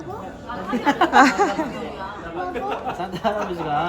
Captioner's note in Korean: 빵 터짐